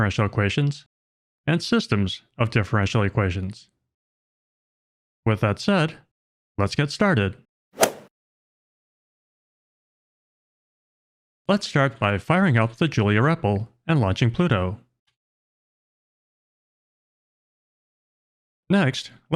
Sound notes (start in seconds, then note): 7.8 golf ball hit sound effect